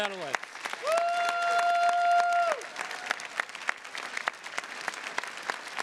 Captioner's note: attendees cheers and claps